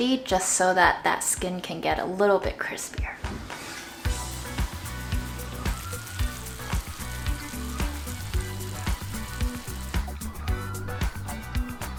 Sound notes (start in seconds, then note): 6.0 skillet sizzling; 8.2 upbeat music continues